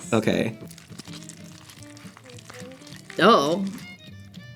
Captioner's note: macaroni squishes